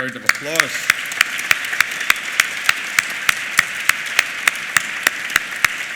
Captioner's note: applause